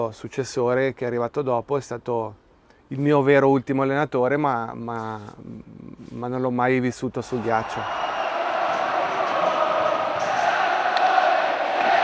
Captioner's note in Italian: Applauso